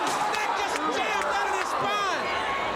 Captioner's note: crowd cheering